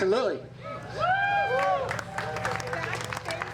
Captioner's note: applause